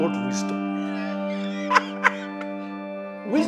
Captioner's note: laghs